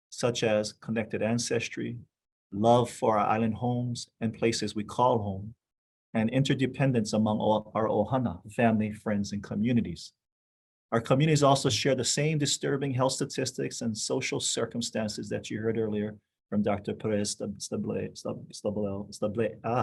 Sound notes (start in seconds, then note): 7.4 speaking foreign language